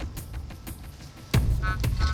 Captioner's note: beeping